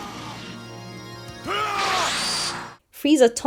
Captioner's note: Vegeta: *yells